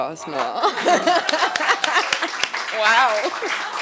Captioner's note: attendees applauding